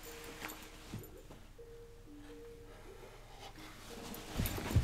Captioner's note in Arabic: رنين الكمبيوتر